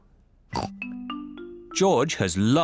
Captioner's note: oinks